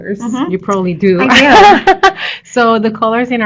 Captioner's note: laughter